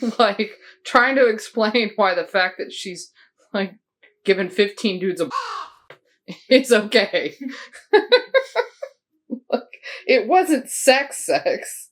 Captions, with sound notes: Like, trying to explain why the fact that she's, like, given 15 dudes a [caw] is okay. Like, it wasn't sex-sex.